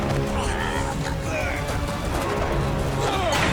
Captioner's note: grunting